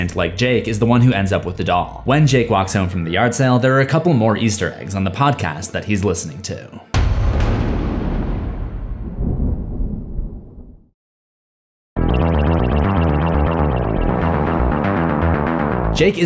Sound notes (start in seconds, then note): 6.8 sinister music; 9.5 thunder rumbles; 12.0 sinister electronic music